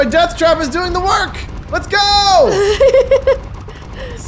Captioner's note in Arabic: تضحك